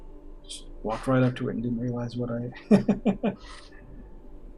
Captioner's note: chuckles